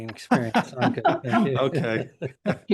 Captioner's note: laughter